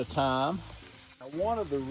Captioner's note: griddle sizzling